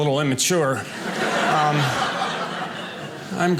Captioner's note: audience laughing